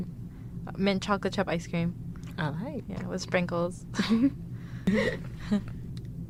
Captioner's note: laughs